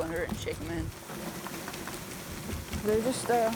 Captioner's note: shaking sounds